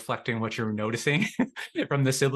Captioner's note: laughter